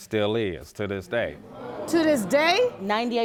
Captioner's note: audience gasps